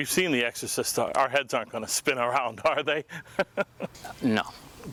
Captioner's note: laughs